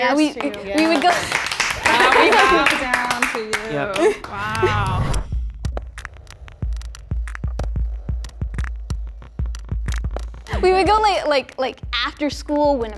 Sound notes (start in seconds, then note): 0.0 group clapping; 5.5 tense music